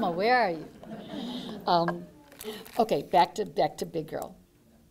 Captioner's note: laughter